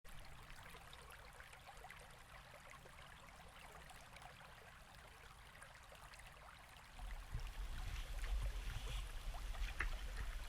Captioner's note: water flowing